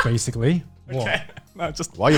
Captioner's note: laughs